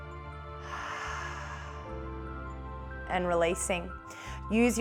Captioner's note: inhales; exhales